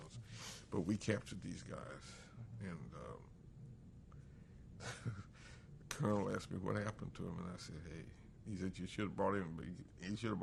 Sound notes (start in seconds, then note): 2.3 laughs